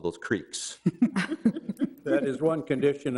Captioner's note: all laugh